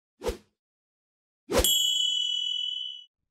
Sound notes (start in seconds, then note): 0.2 swipe